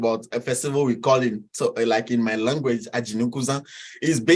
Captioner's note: speaks in foreign language